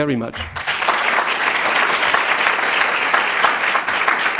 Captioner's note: applause